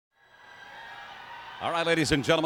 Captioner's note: audience cheers